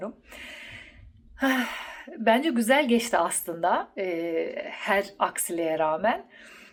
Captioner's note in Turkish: iç çeker